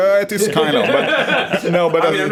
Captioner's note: laughter